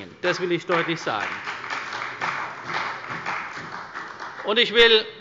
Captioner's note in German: Beifall bei der CDU und dem BÜNDNIS 90/DIE GRÜNEN